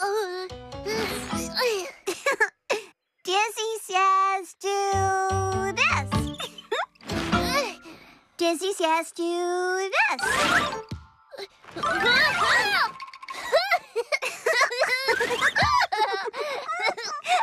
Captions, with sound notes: UH...UNH! ( Giggles ) DIZZY SAYS DO...THIS! UNH! DIZZY SAYS DO...THIS! UNH...UNH! ( Giggles ) ( Both Laughing )